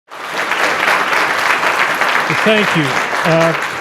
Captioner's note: audience applauding